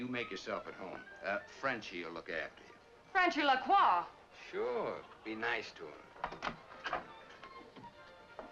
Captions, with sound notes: you make yourself at home. Frenchy will look after you. - Frenchy LeCroix? - Sure, be nice to him. (door opens)